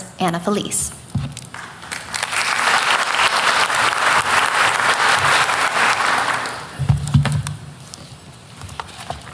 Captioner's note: applause